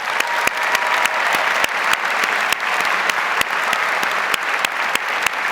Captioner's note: audience cheers and applauds